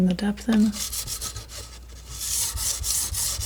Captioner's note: metal scraping